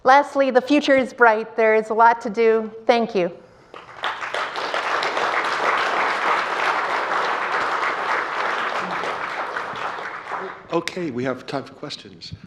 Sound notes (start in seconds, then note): 3.7 clapping